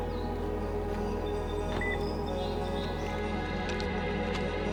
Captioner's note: car chirps; somber music